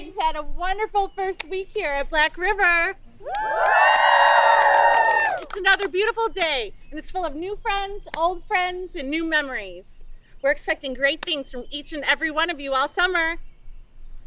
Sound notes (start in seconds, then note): 3.2 campers applauding